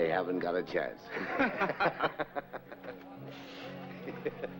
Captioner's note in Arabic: الرجال يضحكون